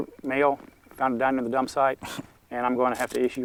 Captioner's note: gasps in disbelief